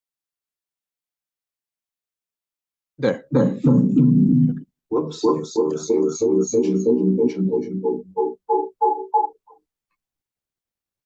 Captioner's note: audio distortion